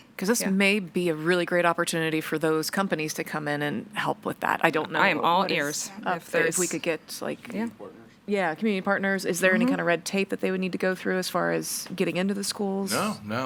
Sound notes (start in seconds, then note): none